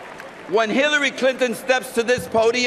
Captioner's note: cheering and applause